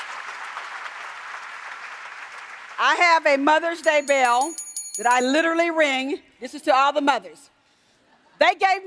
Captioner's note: applause